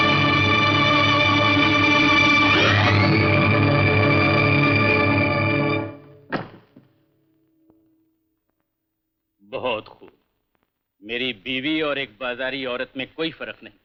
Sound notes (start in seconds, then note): 6.2 door closes